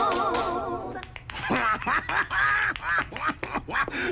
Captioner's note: laughs